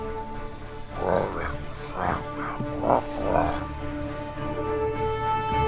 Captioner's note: speaks in demonic language